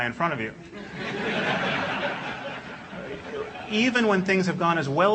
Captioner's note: laugh